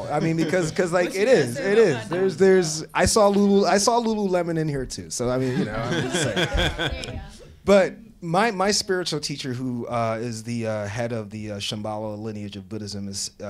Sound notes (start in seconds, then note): 5.4 audience laughing